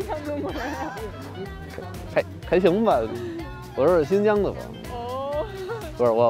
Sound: laughter; speaking in foreign language

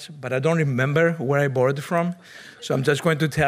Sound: audience members chuckle

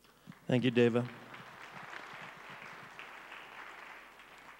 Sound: crowd applauds

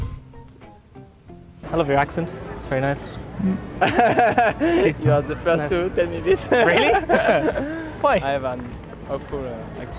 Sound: laughs

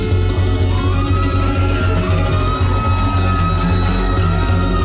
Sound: crowd cheering

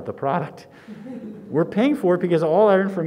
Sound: students laughing

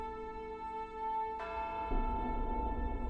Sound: bell tolls

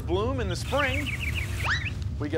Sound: birds chirping

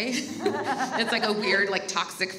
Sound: laughs

